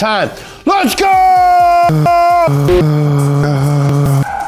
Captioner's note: voice distorting